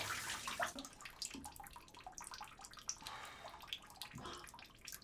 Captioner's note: water dripping